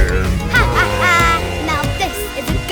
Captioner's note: evil laughing